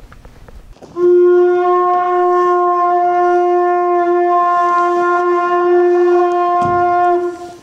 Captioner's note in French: sonnerie de la conche